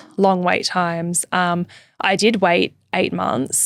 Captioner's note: none